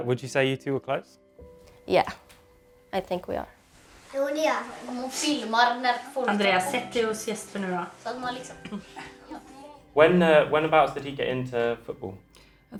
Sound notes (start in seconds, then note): 5.2 speaking in foreign language